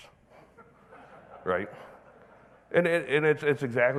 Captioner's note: audience laughing